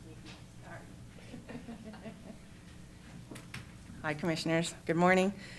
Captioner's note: laughs